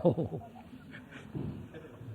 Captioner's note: laughs